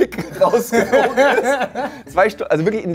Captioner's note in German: Lachen